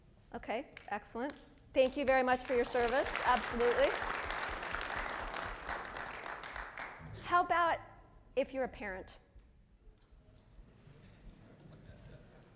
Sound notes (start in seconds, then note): 3.5 audience applauding